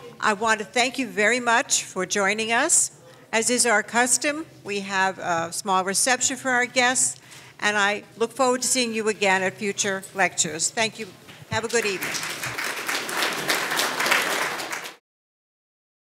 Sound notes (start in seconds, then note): 11.7 audience applauding